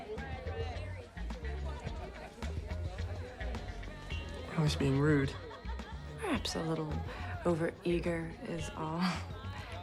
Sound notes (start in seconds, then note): 0.0 groovy music; 1.3 people chattering